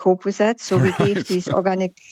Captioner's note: laughs